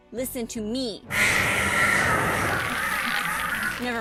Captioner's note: vicious screaming